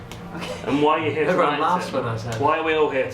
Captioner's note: chuckling